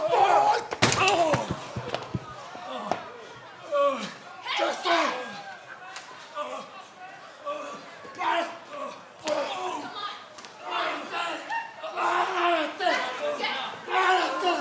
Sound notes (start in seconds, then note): 2.4 speaking in foreign language